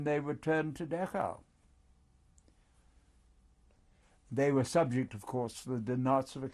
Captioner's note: pauses for 3 seconds